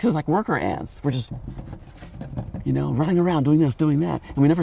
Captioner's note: drumming fingers